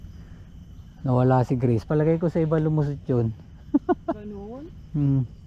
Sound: laugh

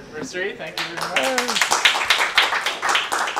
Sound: applause

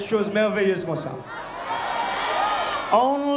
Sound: crowd cheering

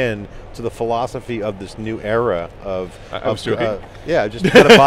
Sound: laughing

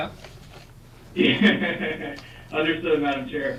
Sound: laughing

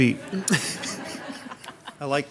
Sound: people laugh

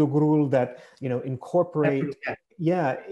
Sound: foreign language

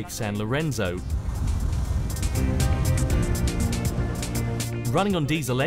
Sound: yacht engine running quietly

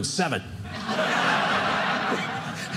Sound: audience laughing

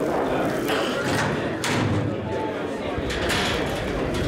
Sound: indistinct background chatter

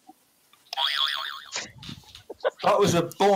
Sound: boing

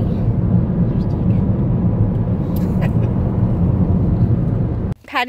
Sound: laughs

